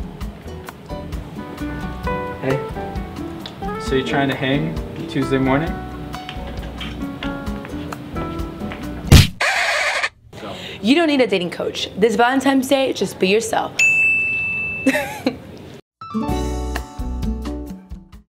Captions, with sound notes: Hey, so you're trying to hang Tuesday morning [punching sound] [record scratch sound] You don't need a dating coach! This Valentine's Day, just be yourself!